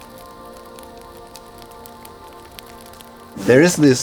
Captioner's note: fire crackles